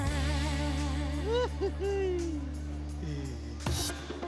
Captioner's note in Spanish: Risas